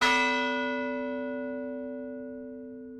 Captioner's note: bell ringing